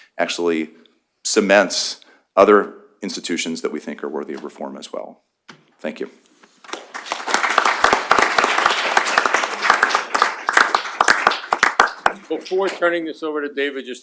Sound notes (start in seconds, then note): 6.6 applause